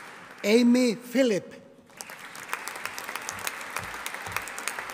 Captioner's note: audience applauding